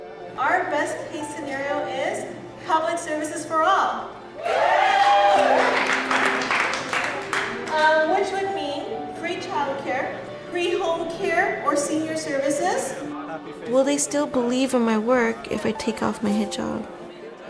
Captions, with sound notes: Our best scenario is public service for all. (Applause) Ah, which would mean, free childcare... free home services for seniors. Will they still believe my work when I take off my hijab?